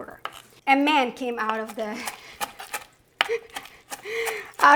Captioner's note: laughing